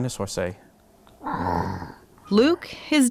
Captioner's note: roars